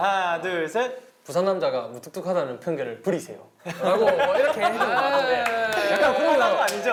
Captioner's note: in Busan dialect